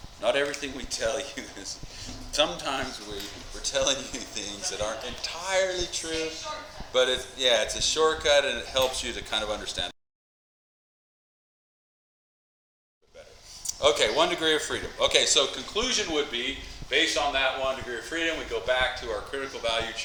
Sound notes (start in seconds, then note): 11.6 mic cuts out